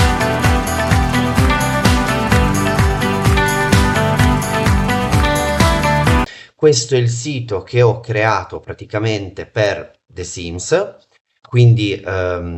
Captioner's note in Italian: Applauso